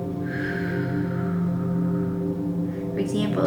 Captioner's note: exhaling